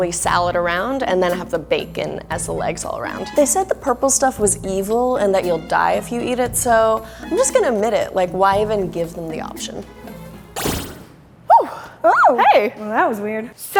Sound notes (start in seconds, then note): 10.5 magical trill; 11.6 squeels